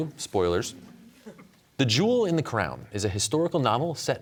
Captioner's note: audience chuckles